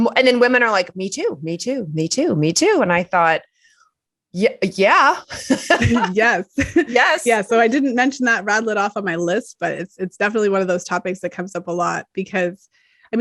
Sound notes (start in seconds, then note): 5.3 laughter